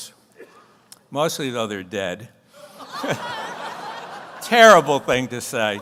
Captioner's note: audience laughs